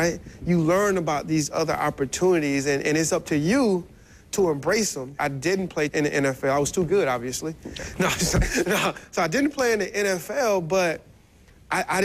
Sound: laughs

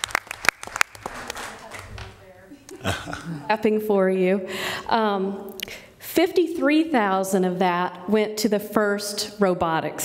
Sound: applause

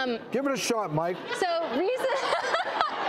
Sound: laughing

